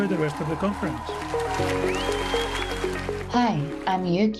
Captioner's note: cheers, applause